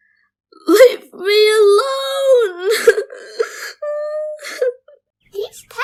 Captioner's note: cries